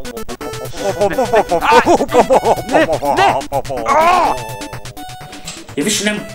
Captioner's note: helicopter releases retarded sounds